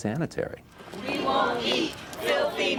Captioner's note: crowd chanting